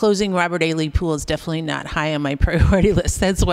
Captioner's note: laughter